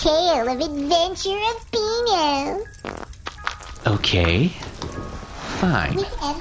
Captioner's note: farts